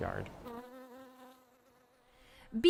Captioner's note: bee buzzes